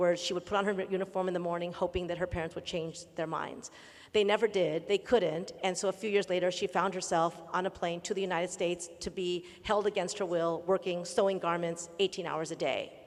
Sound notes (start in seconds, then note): none